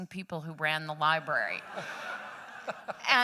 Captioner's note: laughter